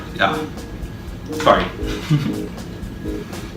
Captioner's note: giggle